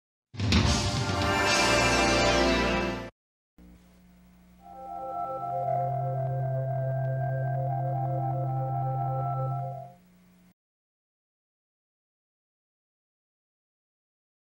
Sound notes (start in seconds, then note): 0.6 modern upbeat music; 4.5 communication satellite sounds making music; 11.0 silence